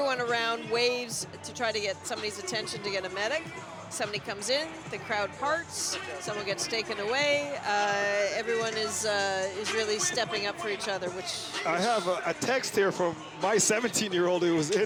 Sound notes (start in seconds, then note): none